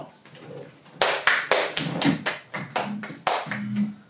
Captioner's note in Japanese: パチパチパチパチ